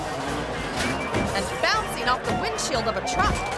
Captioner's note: bike thuds; pounds